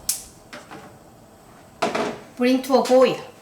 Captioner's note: oven clicking on